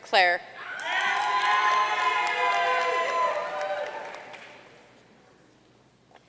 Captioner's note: audience cheering and applauding